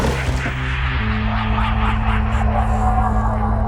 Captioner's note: laughing